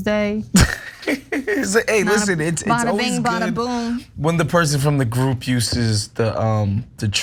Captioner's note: laugh